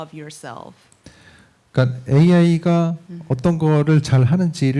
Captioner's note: speaking korean